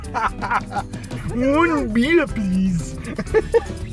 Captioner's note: loud laughing; mimicking French Robot